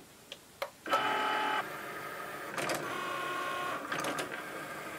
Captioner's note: whirring